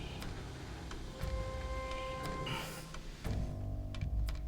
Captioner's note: sniffing